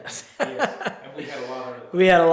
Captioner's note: laughs